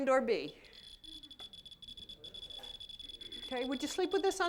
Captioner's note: fast beeping